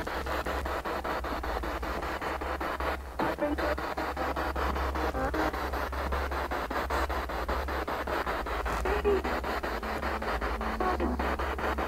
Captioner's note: noise of the spiritbox in the background